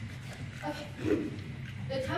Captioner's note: clears throat